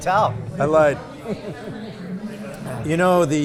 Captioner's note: laughs